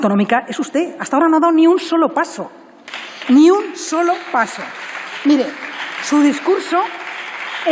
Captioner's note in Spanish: Aplausos